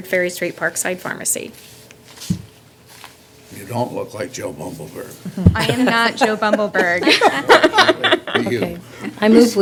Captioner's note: laughter